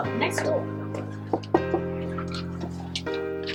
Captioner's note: knocking